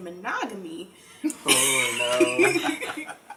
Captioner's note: laughter